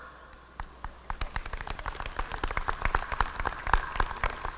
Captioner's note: applause